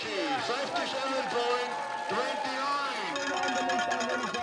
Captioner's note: speaks german